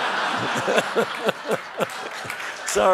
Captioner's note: laughs